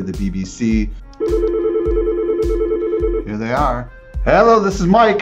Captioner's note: phone rings